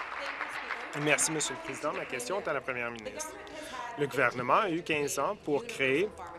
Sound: applause

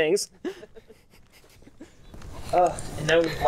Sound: laughs

